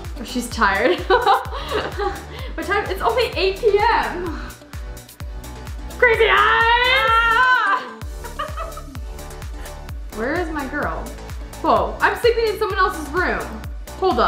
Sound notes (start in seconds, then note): 1.1 laughs; 6.0 shouts and laughs